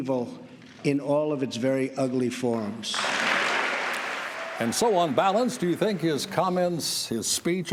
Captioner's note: applause